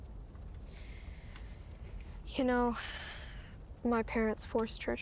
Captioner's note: exhales; inhales